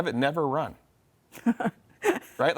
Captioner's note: laughs